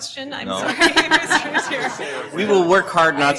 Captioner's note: laughing